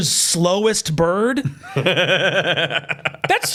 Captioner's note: laughs